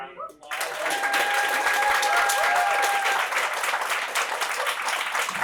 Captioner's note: applause